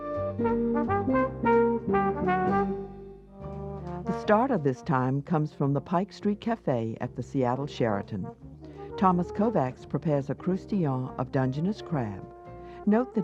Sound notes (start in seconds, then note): 0.2 jazz music; 4.1 voiceover